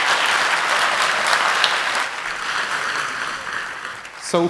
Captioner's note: cheers and applause